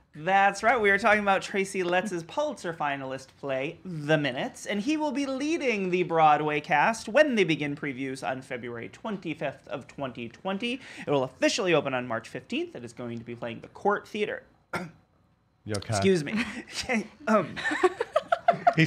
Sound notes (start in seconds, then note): 14.7 coughing; 17.4 laughing